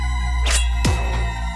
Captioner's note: sword is drawn